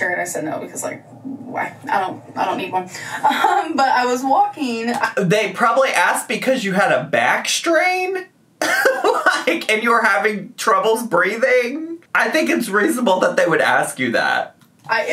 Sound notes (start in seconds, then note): 3.0 laughs; 8.7 laughing